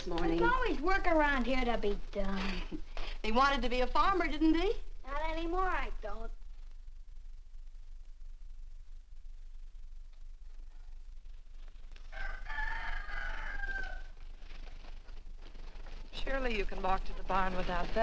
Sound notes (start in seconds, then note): 12.0 rooster Crows